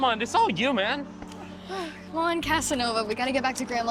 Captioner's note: sighs